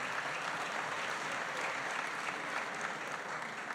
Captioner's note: applause